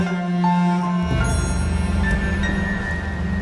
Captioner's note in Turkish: Mesaj sesi